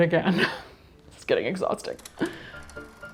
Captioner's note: chuckles; projector whirring; bouncy music